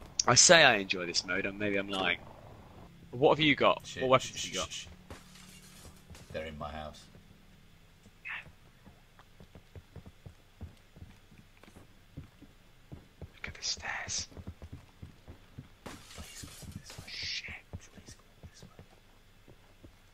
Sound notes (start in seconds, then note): 13.6 whispers; 16.4 whispers